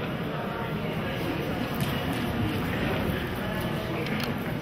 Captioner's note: audience chattering